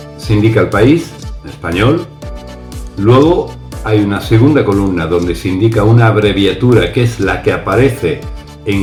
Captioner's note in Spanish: en español